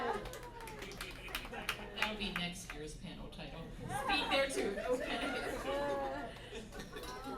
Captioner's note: laughter/groans